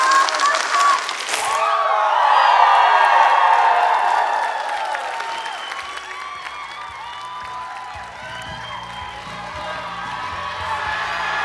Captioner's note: applause